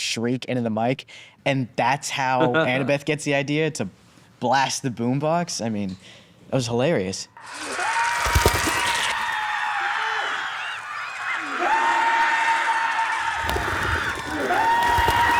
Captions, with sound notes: and that's how Annabeth gets the idea to blast the boombox. I mean, that was hilarious. ( screaming ) ( birds cawing ) ( screaming continues ) ( screaming continues )